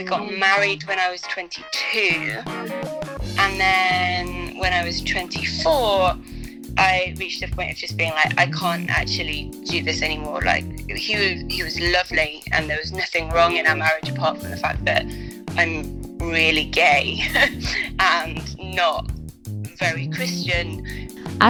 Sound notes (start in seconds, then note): 17.2 laughs